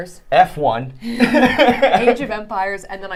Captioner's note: laughing